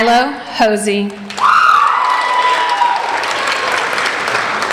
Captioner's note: applauding